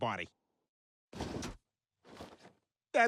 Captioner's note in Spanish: crujido de sábanas